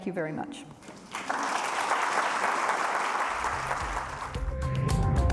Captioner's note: audience applauding; upbeat music